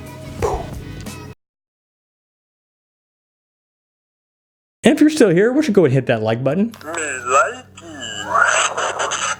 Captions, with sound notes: And if you're still here, why don't you go ahead and hit that Like button. - [Electronic Voice] Me likey.